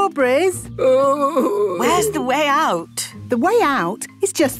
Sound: groaning

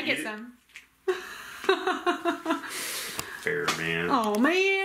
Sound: laughing

